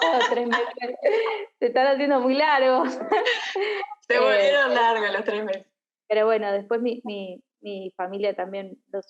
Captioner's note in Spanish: risas